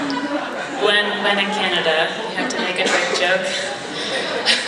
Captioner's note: laughs